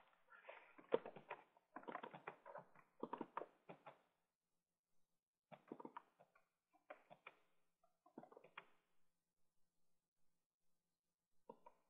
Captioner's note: typing Sounds